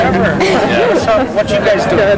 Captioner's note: laughs